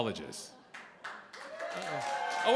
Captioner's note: cheering, applause